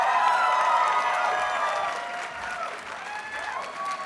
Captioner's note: audience cheers and applauds